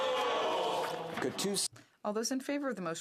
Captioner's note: speaking in French